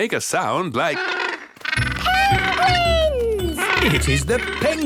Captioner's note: honking